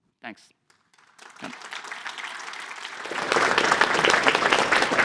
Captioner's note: applause